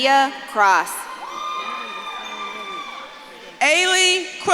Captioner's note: audience claps and cheers